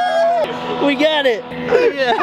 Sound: cheering

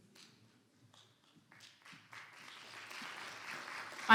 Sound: clapping

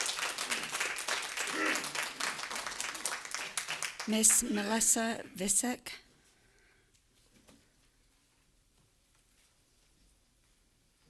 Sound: applause

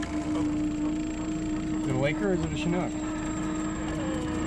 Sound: winch motor running

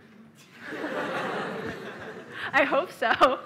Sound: laughter

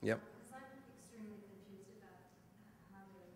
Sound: voiceover

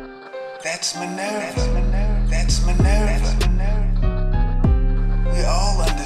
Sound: voice echoes

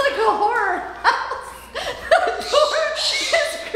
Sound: laughing; birds squawking

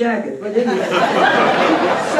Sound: laughter

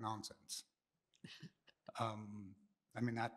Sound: chuckles

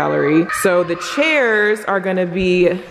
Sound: exclaiming

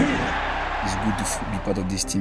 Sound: crowd cheering

